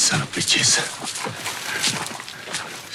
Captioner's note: pants